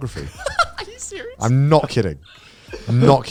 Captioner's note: laughing